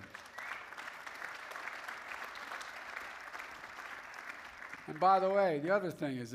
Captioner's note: applause